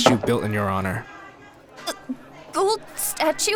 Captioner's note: Fenghua nearly chokes